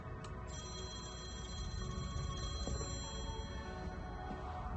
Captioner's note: phone ringing